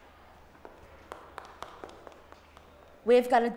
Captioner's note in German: Schritte